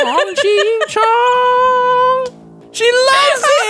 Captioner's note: laughs